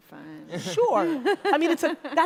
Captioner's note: audience laughter